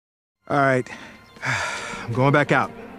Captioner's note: sighs